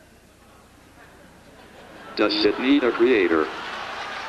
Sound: audience laughs

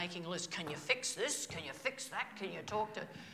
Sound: imitating Joe

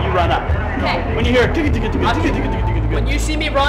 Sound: imitates drum fill

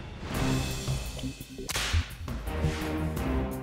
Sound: whip cracks

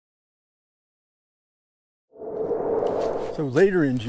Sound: wooshhh

